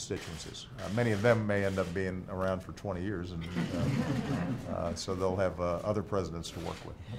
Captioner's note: laughter